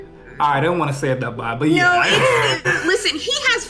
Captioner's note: foreign